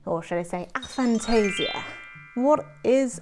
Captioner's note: sparkley noises